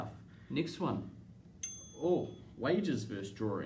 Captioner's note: timer dings